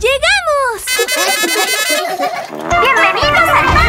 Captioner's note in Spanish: Sonido de bocina; Risas